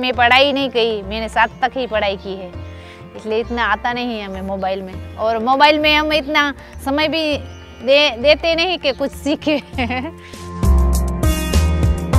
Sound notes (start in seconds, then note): 9.2 laughing